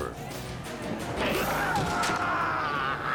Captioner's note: basket lurches; all shouting